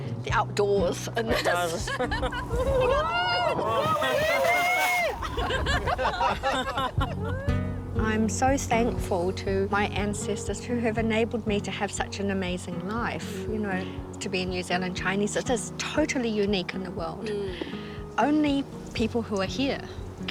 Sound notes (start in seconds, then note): 0.0 all speak chinese; 5.0 laughs; 5.2 wind blows; 13.7 laughs